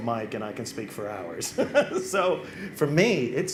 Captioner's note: laughs